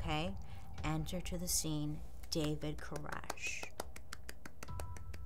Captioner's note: applauds